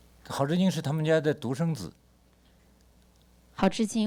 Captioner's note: speaks Mandarin